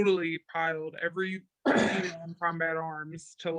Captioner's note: coughs